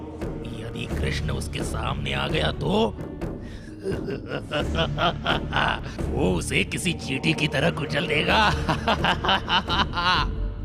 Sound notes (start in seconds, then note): 3.8 laughs; 8.2 laughs